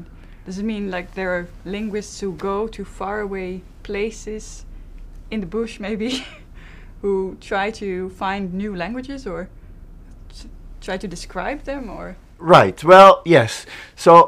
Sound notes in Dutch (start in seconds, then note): 6.0 lacht